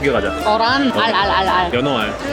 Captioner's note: excited